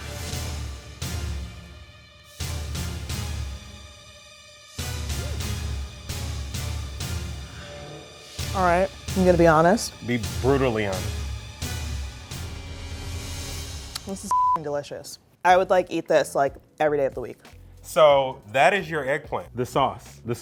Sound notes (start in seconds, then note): 0.3 intense music; 11.5 intense music; 14.2 beep